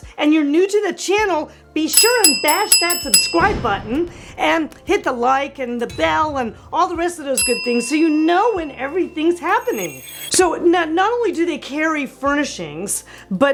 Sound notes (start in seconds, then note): 1.9 bell rings; 7.3 bell dings